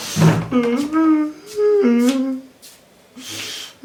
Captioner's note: crying